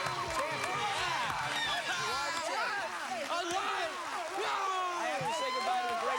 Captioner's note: cheers and applause